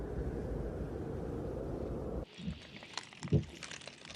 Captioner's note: wind howling